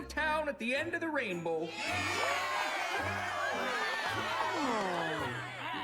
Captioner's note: all cheering